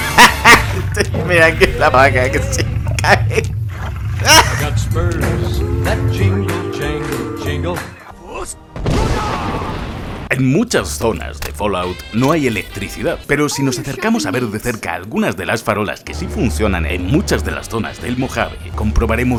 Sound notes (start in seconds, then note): 2.7 laughs like a maniac